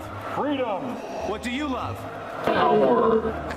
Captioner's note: laughs